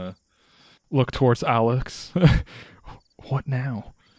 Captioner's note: chuckles